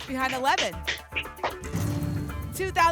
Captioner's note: clapping